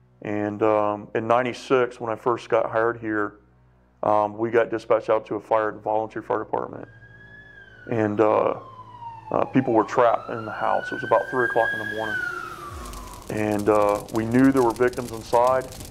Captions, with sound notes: And in 96 when I first got hired here we got dispatched out to a fire at the volunteer fire department and people were [sirens] trapped in the house. It was about three o'clock in the morning and we knew there were victims inside